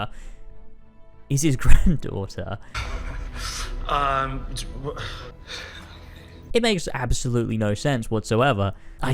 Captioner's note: The Doctor huffing and puffing